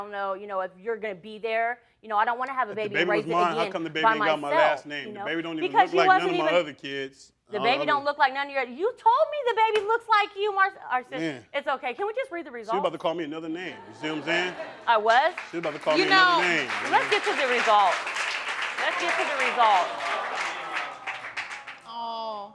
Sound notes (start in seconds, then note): 11.8 stammering; 15.7 crowd laughing and clapping